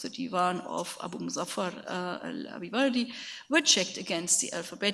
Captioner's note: speaks in a foreign language